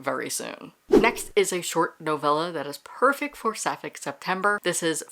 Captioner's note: whoosh